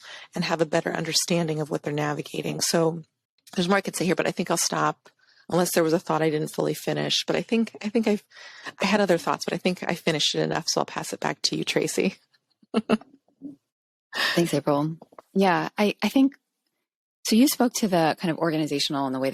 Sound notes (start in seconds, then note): 12.7 chuckles